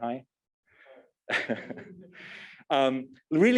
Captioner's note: laughs